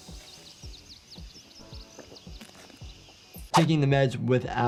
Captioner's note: birds chirping